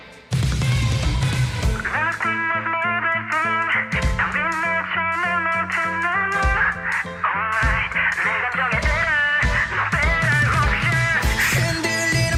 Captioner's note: speaking in foreign language